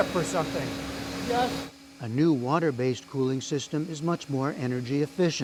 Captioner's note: voice-over